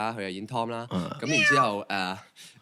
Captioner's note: meow~